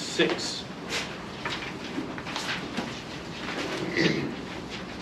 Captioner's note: papers flipping